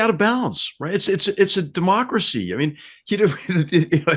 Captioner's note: laugh